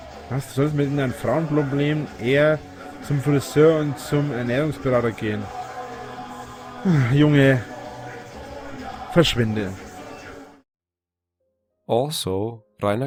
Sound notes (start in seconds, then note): 6.8 sighs